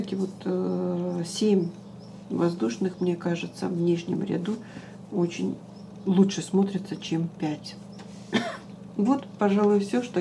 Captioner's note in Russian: откашливается